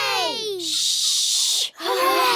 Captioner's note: quietly